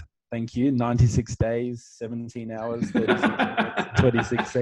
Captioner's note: laughing